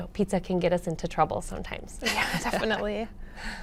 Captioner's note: laughs